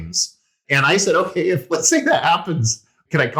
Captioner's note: laugh